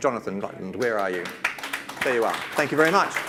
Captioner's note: audience claps